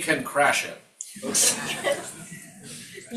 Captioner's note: crowd members laughing